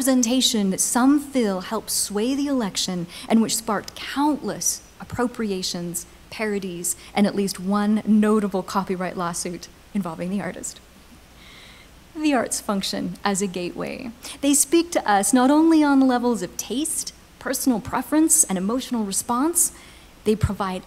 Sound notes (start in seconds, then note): none